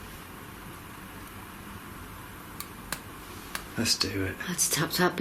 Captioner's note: tapping